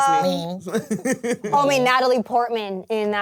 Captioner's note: laughs